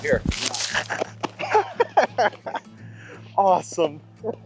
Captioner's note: laughing